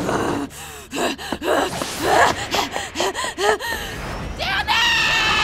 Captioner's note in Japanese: 杏子の荒い息